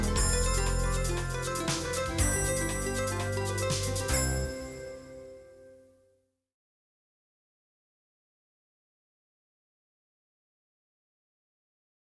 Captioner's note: no audio